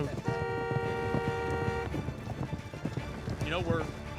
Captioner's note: car horn honks; hoof beats